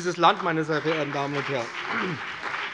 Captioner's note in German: Beifall BÜNDNIS 90/DIE GRÜNEN und CDU